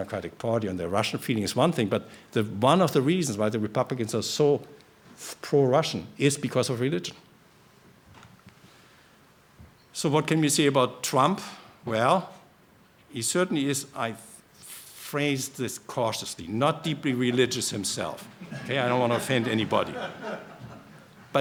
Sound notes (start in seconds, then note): 18.3 laughter